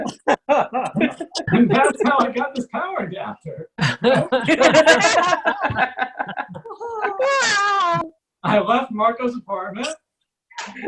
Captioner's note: audience Laughs; audience Laughs